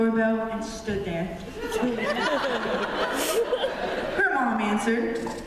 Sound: laughter

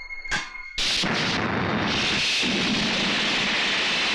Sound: miissile Sound

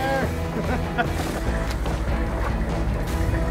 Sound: person laughing; upbeat music

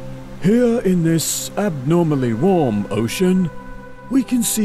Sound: imitates david attenborough

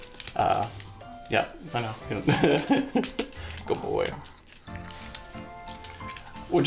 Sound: laughs

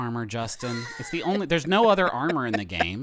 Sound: wheezing

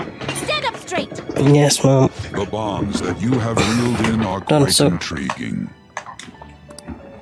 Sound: adjusts chair audibly

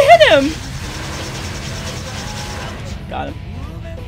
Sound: whooshing

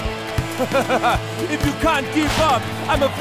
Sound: laughing

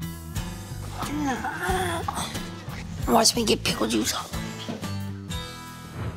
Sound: grunts

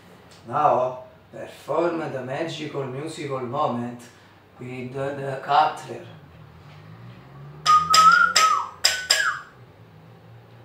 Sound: whistle

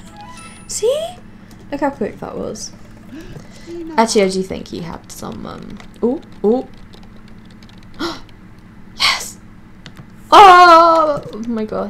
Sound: gasps

